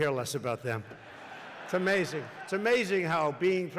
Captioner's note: laughter